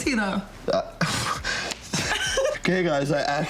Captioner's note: sighs; laughs